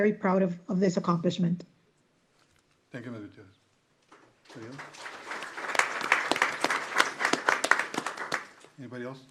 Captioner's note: applause